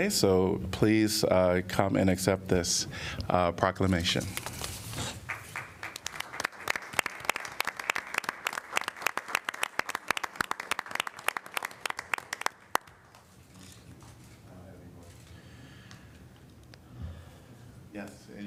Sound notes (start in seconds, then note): 4.3 applause